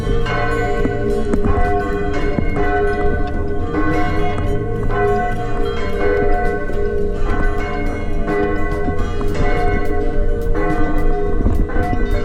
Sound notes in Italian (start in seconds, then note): 2.9 campane che suonano